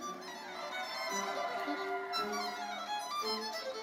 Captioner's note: audience cheering; bright lively music continues